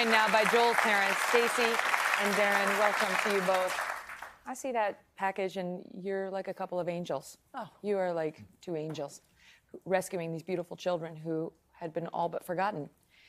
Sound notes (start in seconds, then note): 4.4 applause